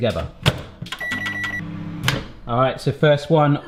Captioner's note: microwave beeps